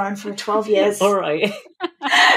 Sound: laughing

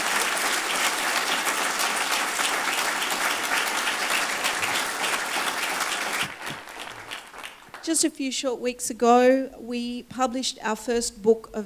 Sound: applause

